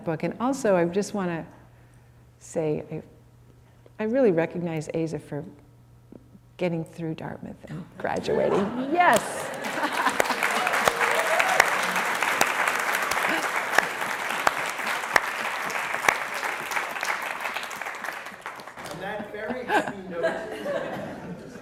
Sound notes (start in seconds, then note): 9.2 applause